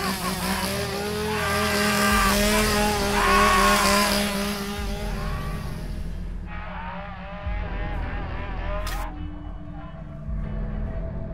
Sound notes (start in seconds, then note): 0.0 chainsaw buzzing; 1.2 man laughing; 8.3 ominous music